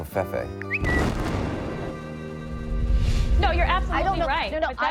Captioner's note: explosion booming